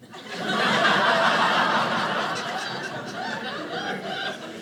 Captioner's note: audience laughing